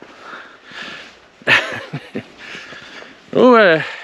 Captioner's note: laughs